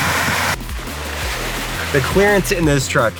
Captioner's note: rock music; sloshing noises